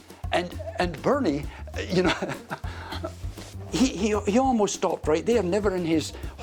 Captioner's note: laughs